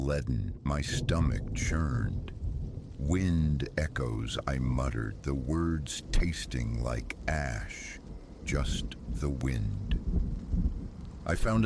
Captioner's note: wind echoes